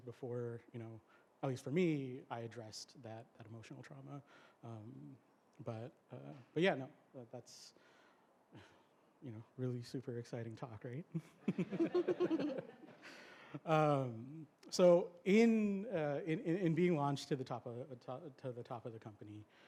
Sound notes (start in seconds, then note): 11.2 laughter